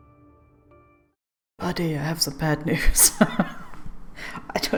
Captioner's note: laughs